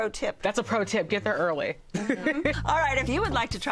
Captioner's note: laughs